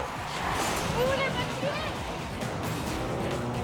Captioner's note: judge speaks in a foreign language